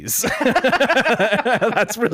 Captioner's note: laughing